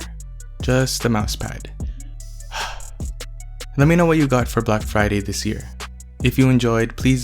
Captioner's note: sigh